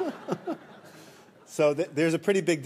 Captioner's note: laughter